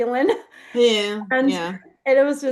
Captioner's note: laughs